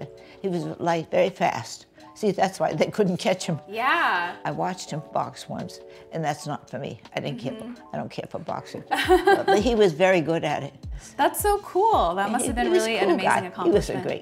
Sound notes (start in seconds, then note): 8.9 laughs